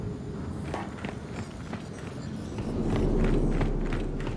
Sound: footsteps

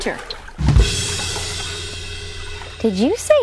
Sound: cymbal presto sound for joke effect

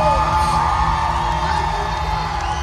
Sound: crowd screaming

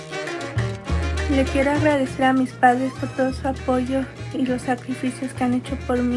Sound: speaks in foreign language

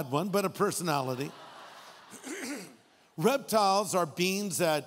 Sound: audience laughing

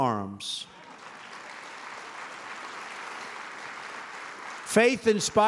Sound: applause

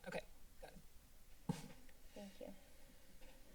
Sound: thud sound

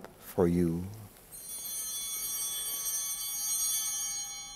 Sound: altar bells ringing

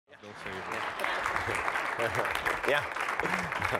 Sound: applause

